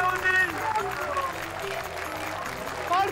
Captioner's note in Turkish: Alkış sesi